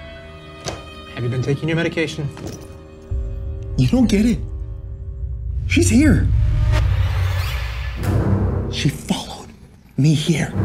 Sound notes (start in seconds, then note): none